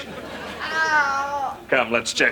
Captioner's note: painful groans